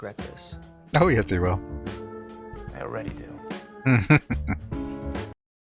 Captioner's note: chuckling